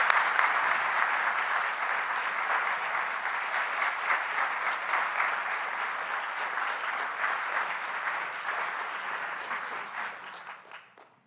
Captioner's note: applause